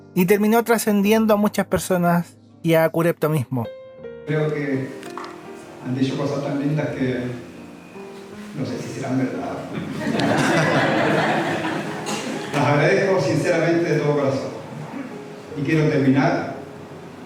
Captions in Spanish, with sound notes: y terminó trascendiendo a muchas personas y a Curepto mismo creo que han dicho cosas tan lindas que no sé si serán verdad (risas) las agradezco sinceramente de todo corazón y quiero terminar